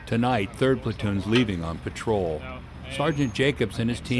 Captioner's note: voiceover